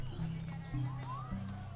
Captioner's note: village sounds